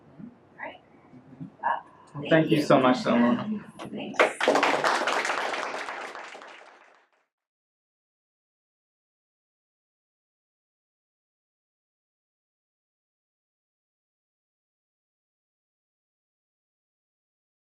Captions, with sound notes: Right, thank you so much so much *applause*